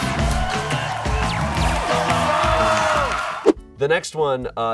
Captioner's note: crowd cheering